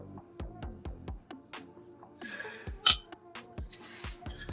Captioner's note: crunching